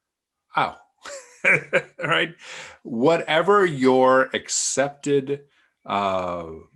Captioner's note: chuckles